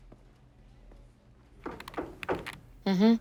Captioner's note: knocks